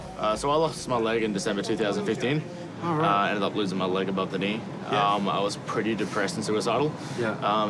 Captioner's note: none